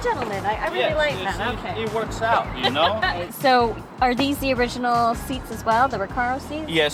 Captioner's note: laughs